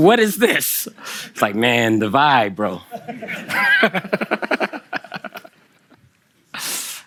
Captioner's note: Kelsey and the audience laugh